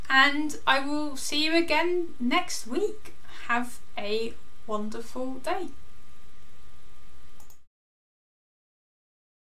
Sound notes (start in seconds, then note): 7.4 mouse clicking